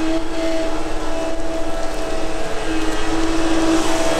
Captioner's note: machine noise